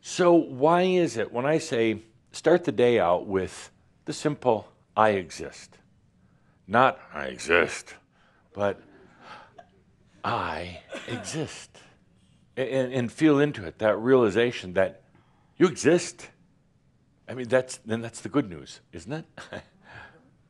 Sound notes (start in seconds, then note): 7.8 grumpily